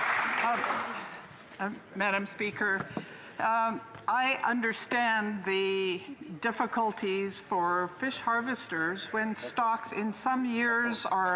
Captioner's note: some Applause